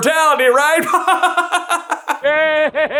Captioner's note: hearty chuckle